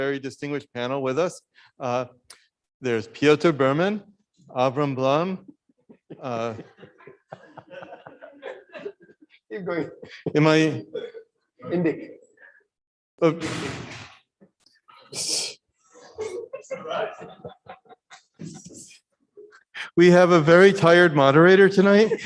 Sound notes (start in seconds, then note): 16.1 audience laughs